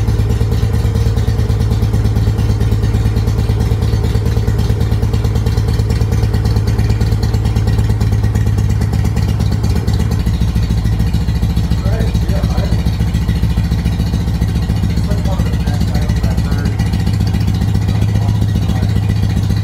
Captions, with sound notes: [engine has settled into an even purr] Alright, we are idling. That's like one of the best idles I've heard in a long time.